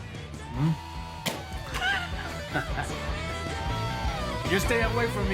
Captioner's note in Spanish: Ríe